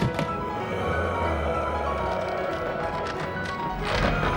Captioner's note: eerie groaning